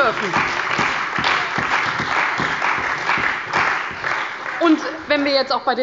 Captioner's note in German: Beifall bei der CDU und dem BÜNDNIS 90/DIE GRÜNEN